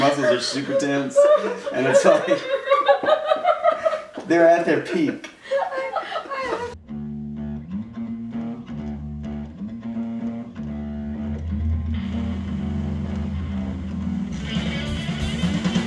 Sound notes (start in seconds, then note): 2.5 laughter; 7.4 rock music